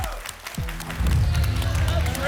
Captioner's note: boom